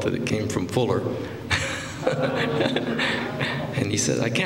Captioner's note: laughter